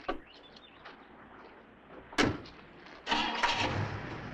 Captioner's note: birds chirping; car engine rumbling